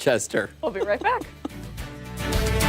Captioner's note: laughter